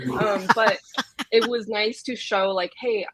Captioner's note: laughs